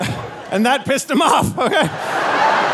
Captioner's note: laughing; audience laughing